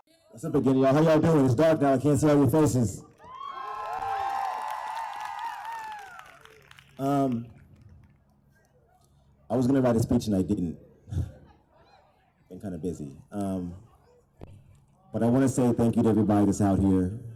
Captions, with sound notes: How are y'all doing, it's dark out I can't see all your faces [cheers] I was going to write a speech tonight. I didn't. Kind of busy But I want to say think you to everybody that's out here